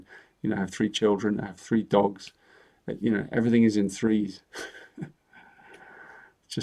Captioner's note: chuckles